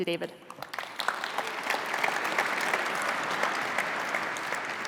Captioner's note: applause